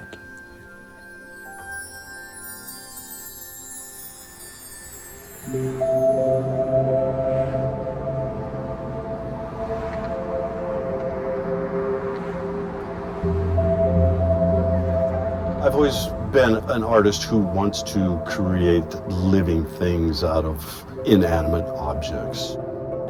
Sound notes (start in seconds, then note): 1.1 twinkly music; 10.5 cars vrooming